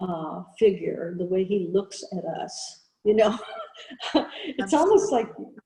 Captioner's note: chuckles